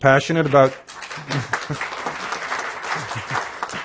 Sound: applause

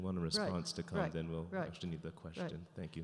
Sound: voiceover

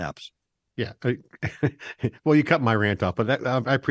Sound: laughs

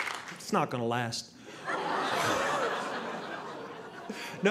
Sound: audience laughing

